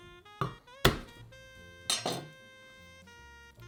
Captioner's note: knife smashing